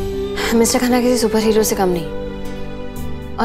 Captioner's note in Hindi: none